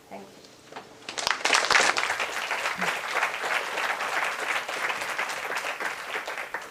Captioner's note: applause